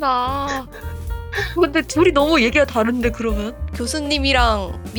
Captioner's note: laugh